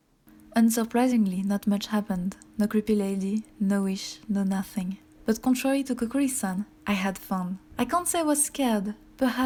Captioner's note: voice over